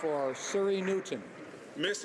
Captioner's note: some Applause